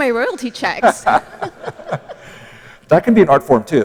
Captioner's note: laughter